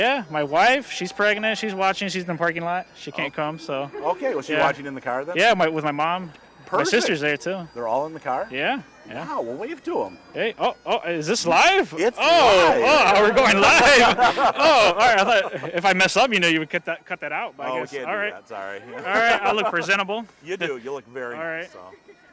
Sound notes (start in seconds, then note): 12.4 both laughing